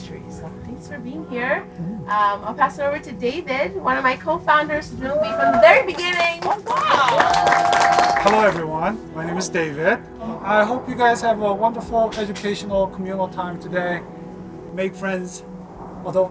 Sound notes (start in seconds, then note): 7.1 crowd cheering